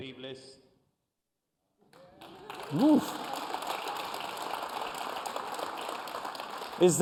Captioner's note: applause